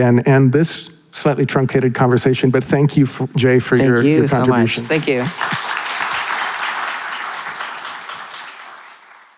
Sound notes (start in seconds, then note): 6.0 audience applauding